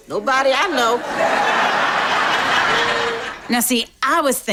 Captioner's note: audience laughs